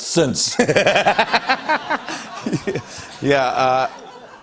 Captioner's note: laughter